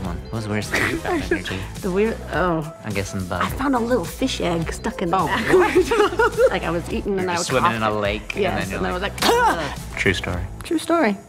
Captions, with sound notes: you found in your teeth? The weird-- Oh. I'm guessing bug. I found a little fish egg stuck in the back. Oh, what? [laughing] Like I was eating, and I coughed-- You were swimming in a lake. Yeah. And I was like-- [coughing] True story. True story.